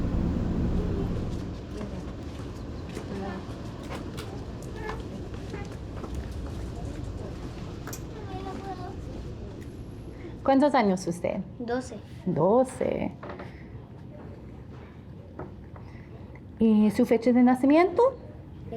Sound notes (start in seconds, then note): 10.4 speaking in a foreign language